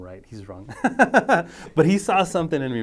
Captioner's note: laughing